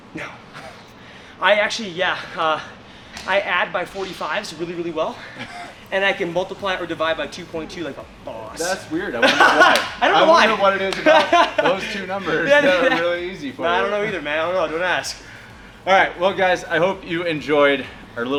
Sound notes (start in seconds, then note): 1.2 laughs; 9.1 laughs